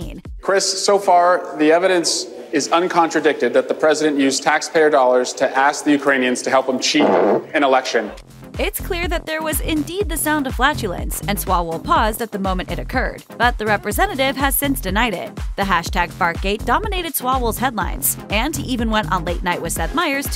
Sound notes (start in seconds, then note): 6.8 fart Noise